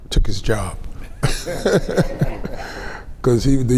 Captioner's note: laughs